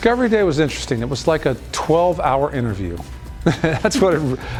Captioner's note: chuckling